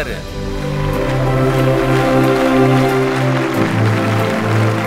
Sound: applause

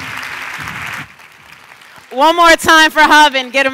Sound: cheers and applause

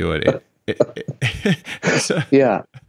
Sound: laughing

